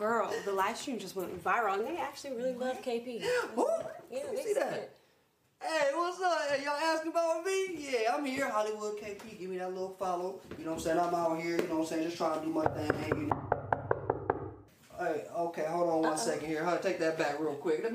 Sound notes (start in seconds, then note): 12.6 loud knocking